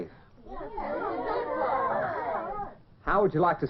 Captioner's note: moaning and grumbling